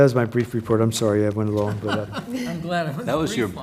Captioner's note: laugh